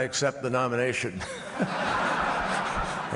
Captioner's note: laughter